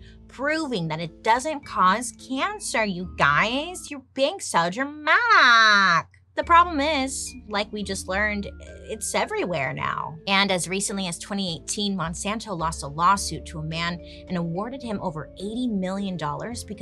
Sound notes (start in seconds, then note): none